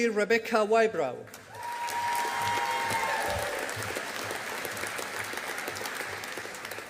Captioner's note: audience applauding